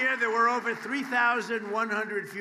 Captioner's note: applause